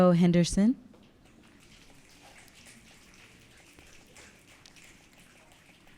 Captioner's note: audience clicking